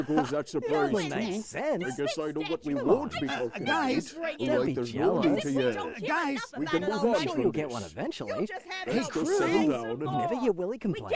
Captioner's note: all arguing